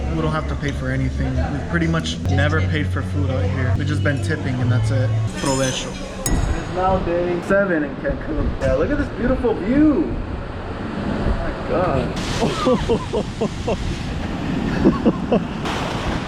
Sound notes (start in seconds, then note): 6.2 clink!; 12.5 laughing noises